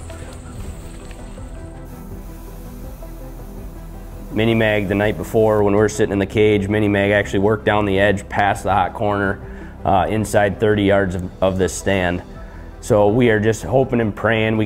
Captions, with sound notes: (intense synth music) (can sprays) Mini-Mag, the night before, when we're sitting in the cage, Mini-Mag actually worked down the edge past the Hot Corner, inside 30 yards of this stand. So we are just hoping and praying